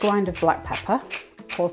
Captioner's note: peppermill grinding